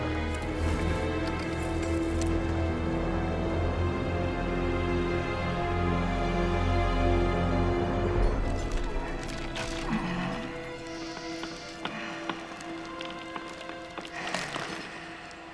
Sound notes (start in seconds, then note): 8.2 creaking sounds